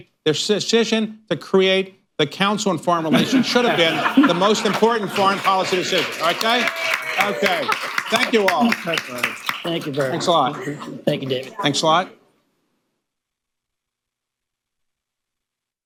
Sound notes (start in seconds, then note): 6.4 laughter, applause